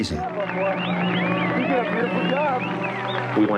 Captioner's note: cheering